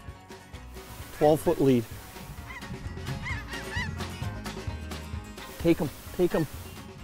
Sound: upbeat country music; birds calling

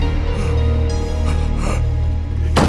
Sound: whimpers

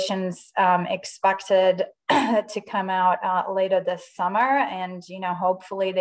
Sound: coughs

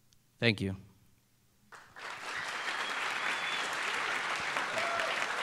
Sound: applause

